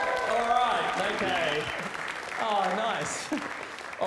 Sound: laughs

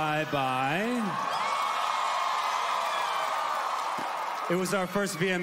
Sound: cheering

